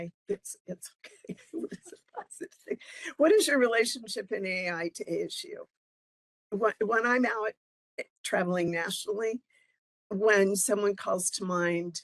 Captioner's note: laughing